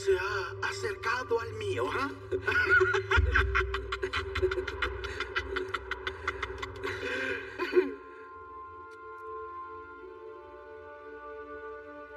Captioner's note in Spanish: Ríe